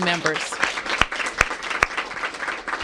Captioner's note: applause